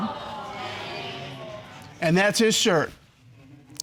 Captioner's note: audience exclaiming